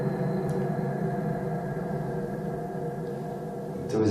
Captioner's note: clicking